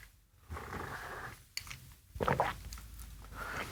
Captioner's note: slurping tea